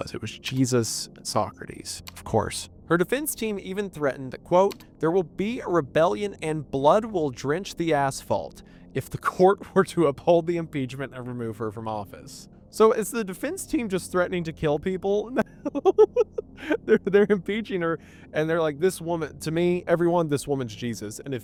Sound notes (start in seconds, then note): 15.3 laughing